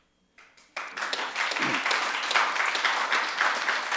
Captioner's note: audience claps